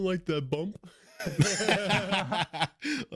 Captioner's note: laughter